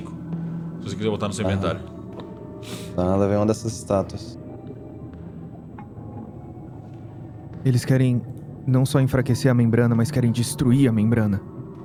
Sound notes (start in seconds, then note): none